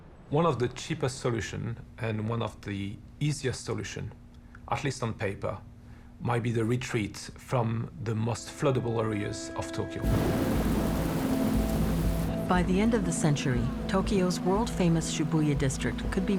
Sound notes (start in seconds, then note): 12.4 thunder rumbles